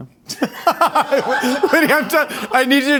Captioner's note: everyone laughing